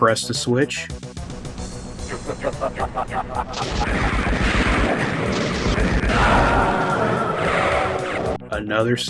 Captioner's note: evil laugh